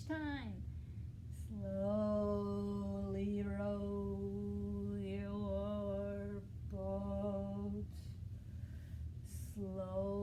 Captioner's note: speaking in slow motion